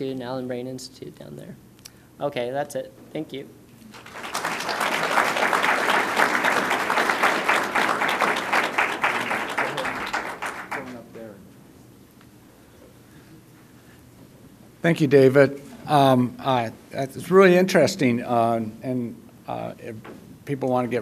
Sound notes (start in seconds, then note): 5.4 applause